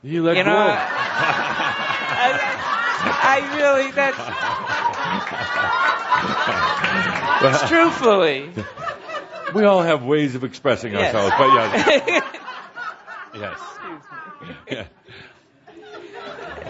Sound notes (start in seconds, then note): 0.4 lots of laughter from audience and Tobias; 6.9 chuckling